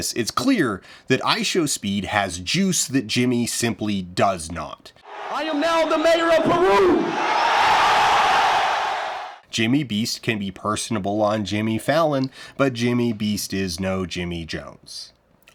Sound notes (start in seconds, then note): 7.1 crowd cheers